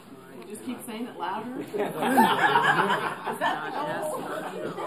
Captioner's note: laughing